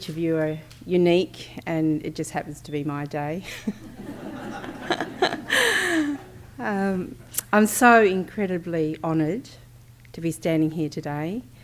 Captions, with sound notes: of you are unique, and it just happens to be my day. [ Laughter ] I'm so incredibly honoured to be standing here today